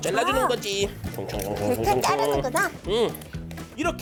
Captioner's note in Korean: 쓱싹 쓱싹